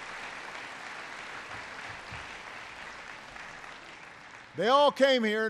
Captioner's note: applause